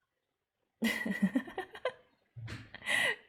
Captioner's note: laughs